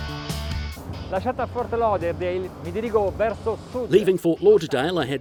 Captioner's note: speaking in foreign language